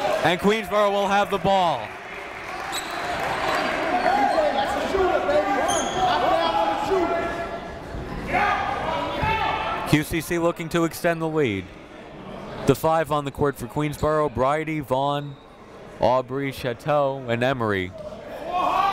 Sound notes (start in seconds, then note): 2.1 crowd talking; 3.5 coaches yelling; 18.4 coaches yelling